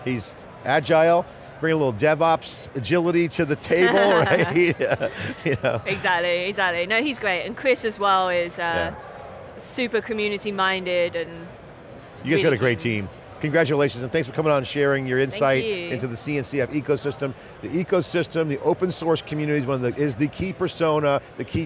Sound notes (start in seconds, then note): 3.7 chuckles